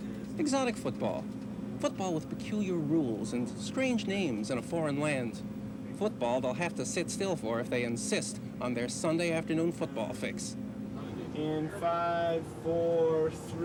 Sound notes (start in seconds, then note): none